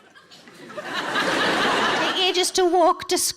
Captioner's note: audience laughing